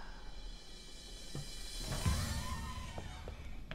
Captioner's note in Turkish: Kapı açılma sesi